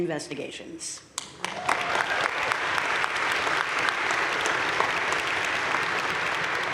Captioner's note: audience cheering and applauding